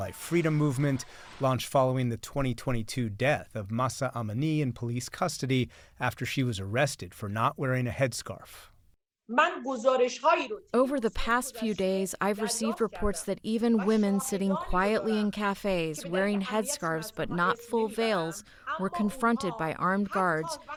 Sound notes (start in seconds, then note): 11.3 through translator